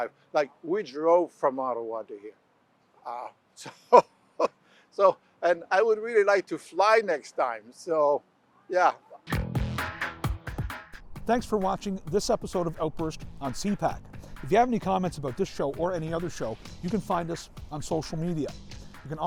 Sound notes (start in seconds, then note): 3.6 laughs; 9.2 theme music playing